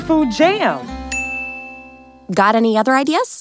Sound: bell chimes

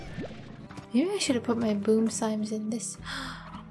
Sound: gasp

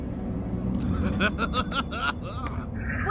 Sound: laughing

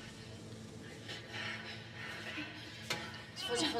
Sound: both panting

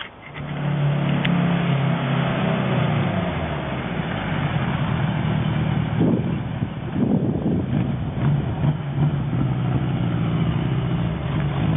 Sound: motorcycle engine revving

